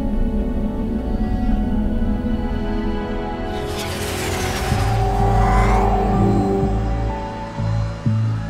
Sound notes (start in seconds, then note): 5.8 gate Opening